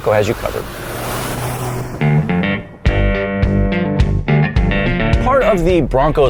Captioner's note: car accelerating